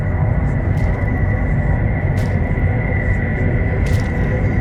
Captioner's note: punches thudding